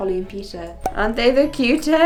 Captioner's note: popping sound